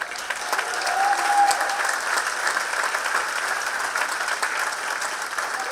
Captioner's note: audience cheering and clapping